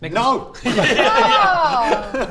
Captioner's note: disappointed laughter